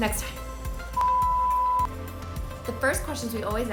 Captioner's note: beeping